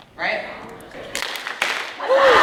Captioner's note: clap clap